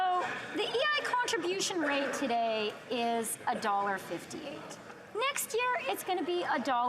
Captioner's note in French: voix de l'interprète